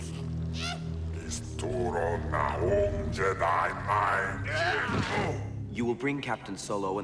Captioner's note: Speaking Huttese